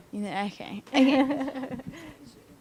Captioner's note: laughter